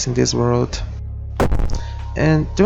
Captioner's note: bonk